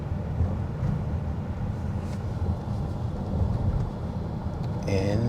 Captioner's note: car engine